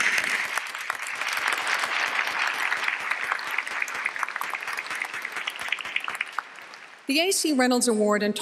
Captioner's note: applause